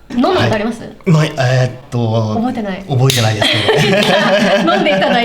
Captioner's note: laughs